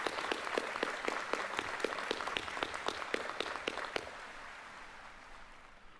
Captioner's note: applause